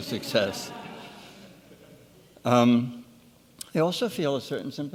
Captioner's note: laughing